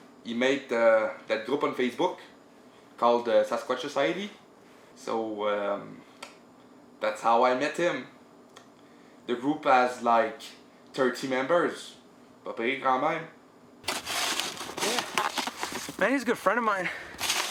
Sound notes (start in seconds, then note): 13.8 shoveling sounds